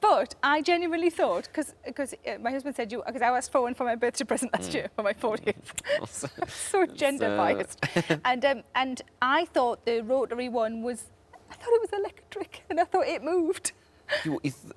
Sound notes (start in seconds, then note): 5.8 laughs; 7.8 Tom laughs